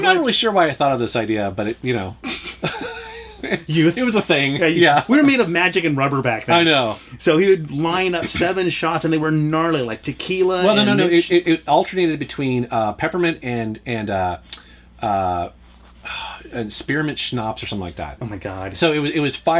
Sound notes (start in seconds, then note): 2.2 laughter